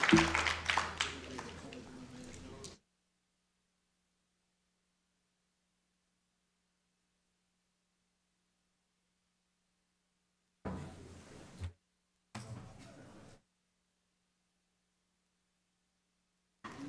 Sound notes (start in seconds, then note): 9.3 applause